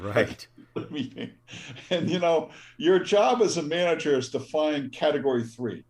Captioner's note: laugh